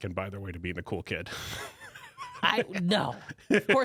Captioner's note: laughs